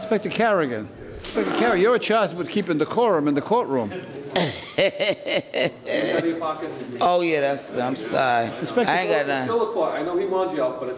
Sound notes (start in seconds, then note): 4.4 laughs